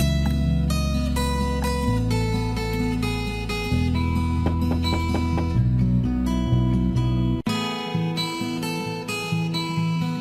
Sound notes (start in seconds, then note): 4.4 knock knock